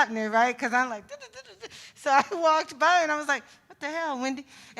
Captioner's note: vocalizes